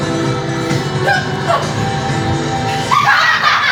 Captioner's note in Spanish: Más gruñidos; Risas